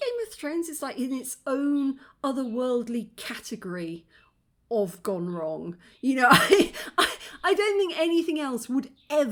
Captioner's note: laughing